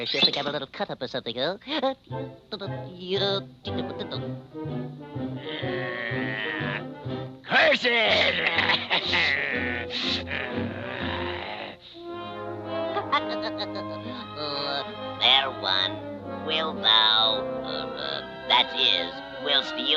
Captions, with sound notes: or she'll think I'm a little cut up or something, huh. (Popeye humming) - (grumbling) Curses!(growling) - (chuckling) Oh, fair one. Will thou, that is...